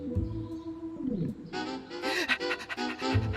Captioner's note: panting